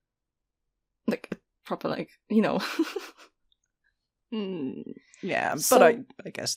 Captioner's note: laughs